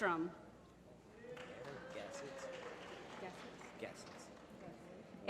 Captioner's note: applause